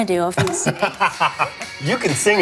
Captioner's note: laughs